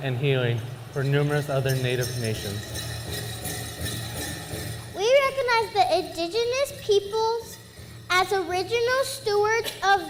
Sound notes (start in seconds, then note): 2.7 bells jingling